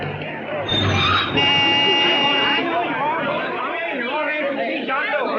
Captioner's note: horn honking